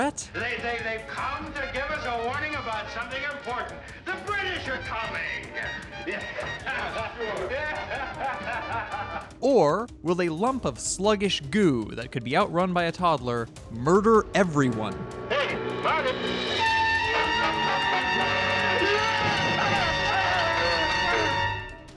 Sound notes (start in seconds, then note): 6.0 laughter; 15.0 dramatic music swells